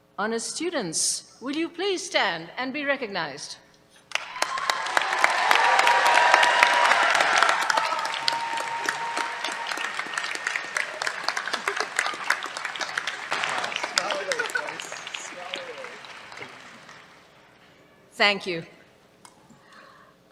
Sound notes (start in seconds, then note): 3.9 cheers, applause; 13.8 chatter